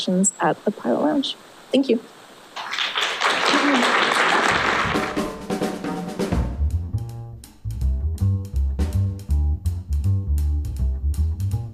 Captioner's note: applause